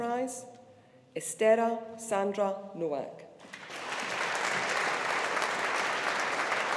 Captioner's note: audience applauding